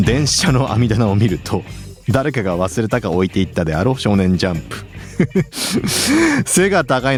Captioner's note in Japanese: 笑い